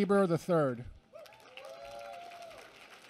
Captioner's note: applause